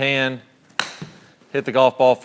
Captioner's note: golf club hits golf ball